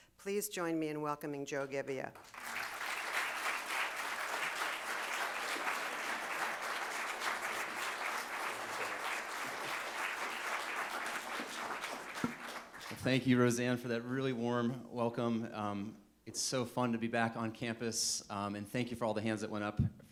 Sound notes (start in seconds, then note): 2.3 audience applauding